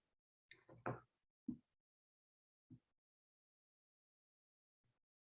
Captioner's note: silence